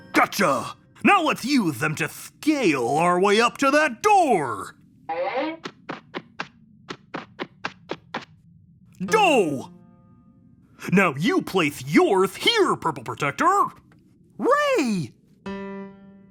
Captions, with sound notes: Gotcha. Now let's use them to scale our way up to that door. (footsteps pattering) Doe. Now you place yours here, Purple Protector. - Ray. (lively piano music)